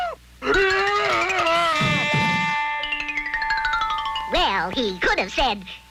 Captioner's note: cowboy yelling